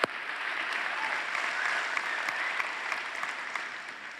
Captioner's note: applause